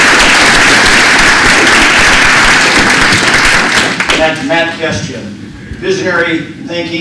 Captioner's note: applause